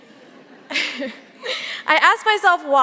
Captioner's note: audience laughing softly